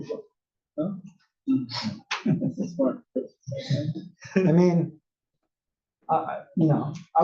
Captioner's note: laugh